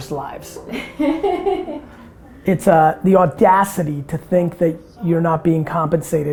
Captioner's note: laughs